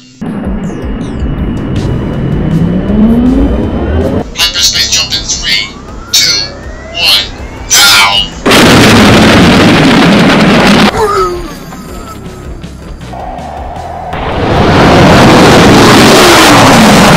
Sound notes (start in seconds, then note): 8.4 SPFT jumping into hyperspace